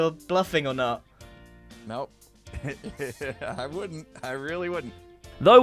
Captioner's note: laughs